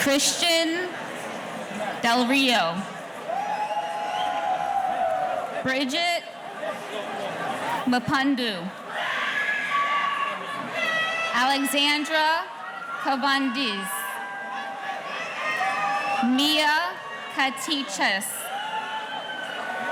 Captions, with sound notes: Christian Delrio. (audience cheering) Bridget Mopundo. (audience cheering) Alexandra Kovandis. Mya Katiches.